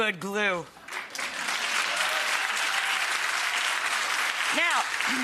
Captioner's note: audience cheering and clapping